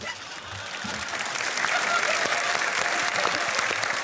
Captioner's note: applause